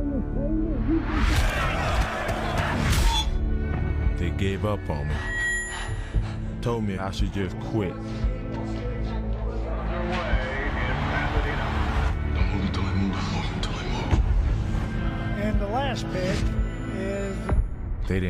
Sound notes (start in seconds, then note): 5.6 breathing heavy; 8.3 announcer speaking